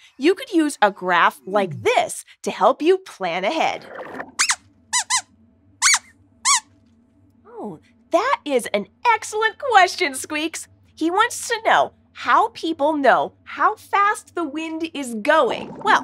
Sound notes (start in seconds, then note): 6.4 squeaks squeaks